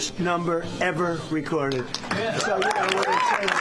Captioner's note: applause